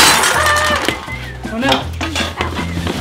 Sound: screams

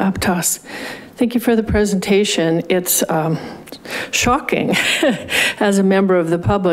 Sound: laughs

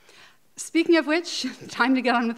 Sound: laughing

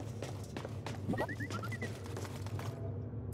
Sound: boo-beep-beep

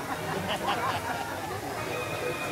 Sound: guests chuckling

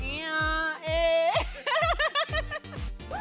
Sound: laughs

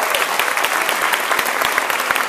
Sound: applause

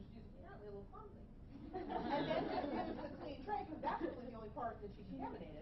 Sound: laughing

